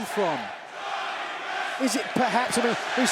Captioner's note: crowd chants "Johnny Wrestling/Ricochet"